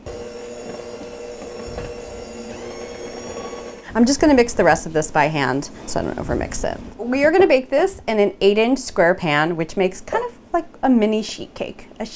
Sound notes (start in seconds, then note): 0.0 mixer whirs